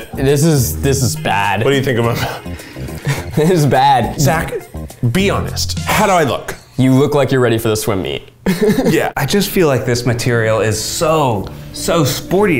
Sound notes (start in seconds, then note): 2.1 laughing